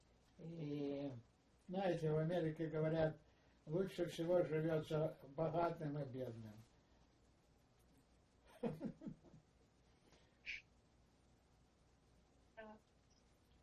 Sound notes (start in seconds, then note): 8.5 laughing